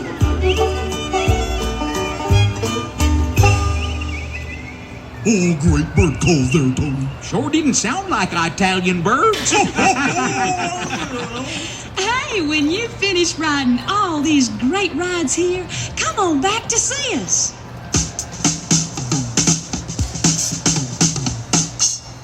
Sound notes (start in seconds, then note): 0.2 violin, banjo, and bird tweeting; 9.3 laughter; 17.9 drum beat